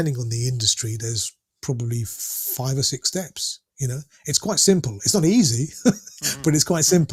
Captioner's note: laughter